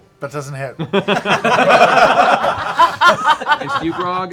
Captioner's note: laughter